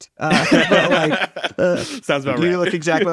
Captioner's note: laughing